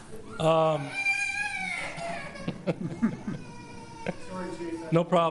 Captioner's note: child crying